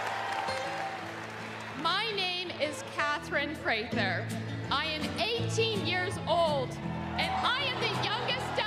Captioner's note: applause